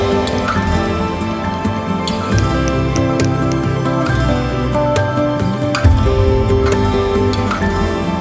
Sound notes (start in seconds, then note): 1.1 sound of hammering